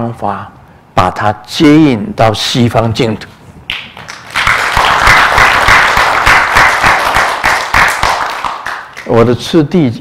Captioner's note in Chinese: 眾鼓掌